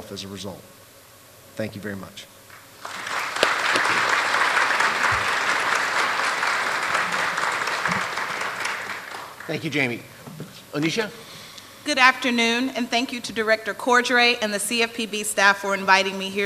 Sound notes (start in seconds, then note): 4.2 applause